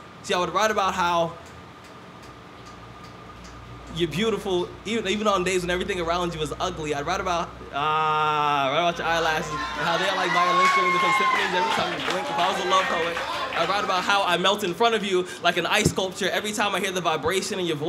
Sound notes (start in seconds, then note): 12.4 cheers